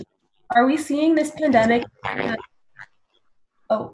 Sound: microphone feedback

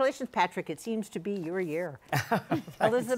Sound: laughs

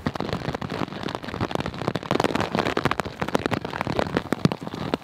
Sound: heavy rain falling

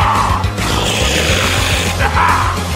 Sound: angy man forest growls

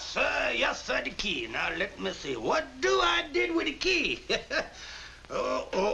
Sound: chuckles

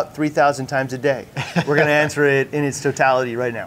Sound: chuckles

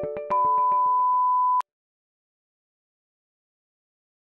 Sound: tone shrilling

